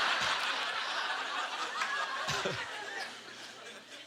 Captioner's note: audience laughter